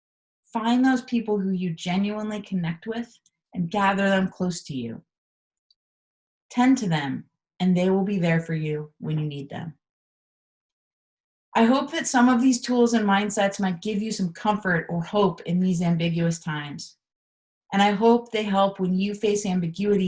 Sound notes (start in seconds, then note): none